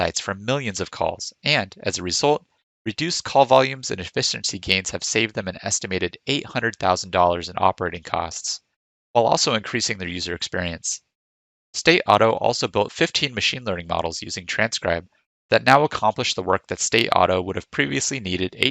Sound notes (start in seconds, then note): none